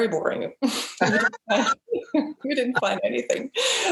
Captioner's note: both laugh